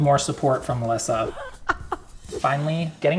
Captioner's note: laughing